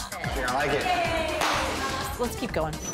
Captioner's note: upbeat electronic music; hands clap